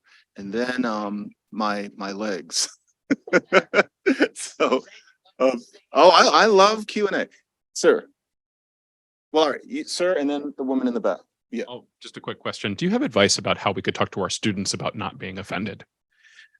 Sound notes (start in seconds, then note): 3.0 laughs